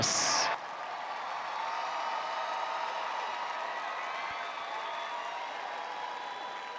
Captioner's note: audience applauding and cheering